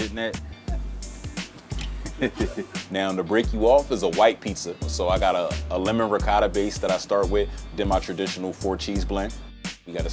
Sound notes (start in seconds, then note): 2.0 laughing